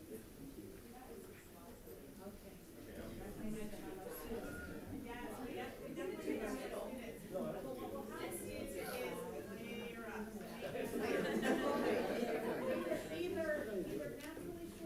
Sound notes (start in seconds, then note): 3.8 people chattering; 10.7 attendees laughing